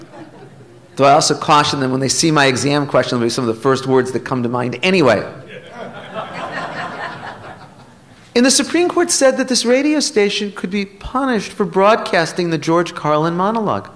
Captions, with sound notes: I ALSO CAUTION THEM WHEN THEY SEE MY EXAM QUESTION IT'LL BE SOME OF THE FIRST WORDS THAT COME TO MIND ANYWAY. [LAUGHTER] AND THE SUPREME COURT SAID THAT THIS RADIO STATION COULD BE PUNISHED FOR BROADCASTING THE GEORGE CARLIN MONOLOGUE.